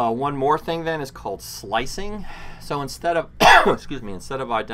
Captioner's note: coughs